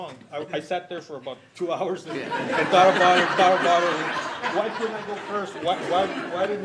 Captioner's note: laughter